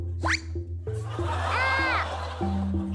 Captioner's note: yelps